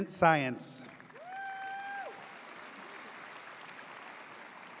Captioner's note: audience cheers